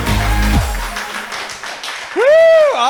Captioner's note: applause